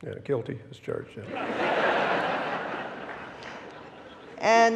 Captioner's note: audience laughing